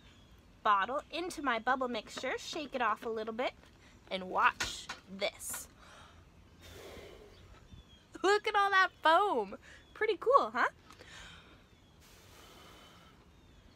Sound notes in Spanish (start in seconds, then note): 6.6 Ruido de soplido; 12.0 Ruido de soplido